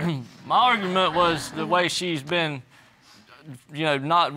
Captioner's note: audience chuckles